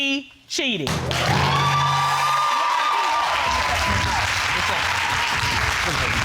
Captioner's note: audience applauding